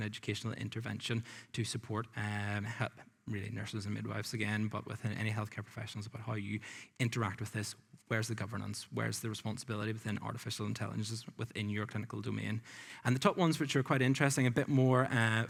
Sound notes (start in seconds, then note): none